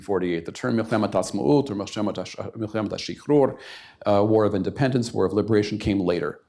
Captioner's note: hebrew